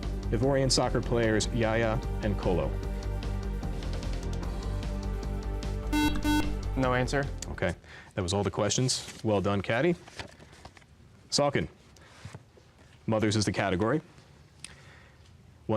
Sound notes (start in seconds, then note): 5.9 buzzer